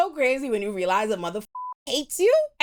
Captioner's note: beep